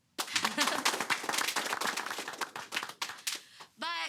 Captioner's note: all clapping